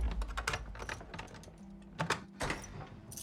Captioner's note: clanking